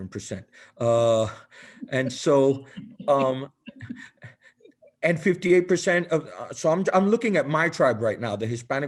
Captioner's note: laughter